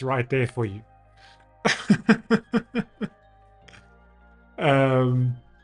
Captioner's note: laughs